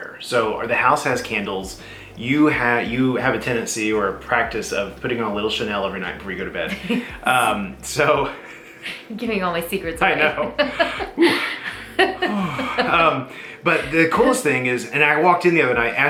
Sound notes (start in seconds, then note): 10.2 laughs